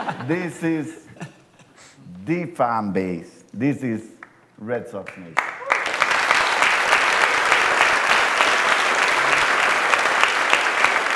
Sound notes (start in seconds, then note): 5.0 applause